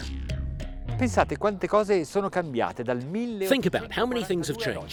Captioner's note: speaking in foreign language